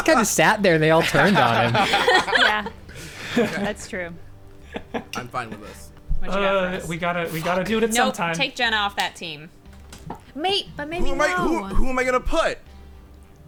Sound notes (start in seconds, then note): 0.8 players laughing; 4.6 laughing; 6.9 pat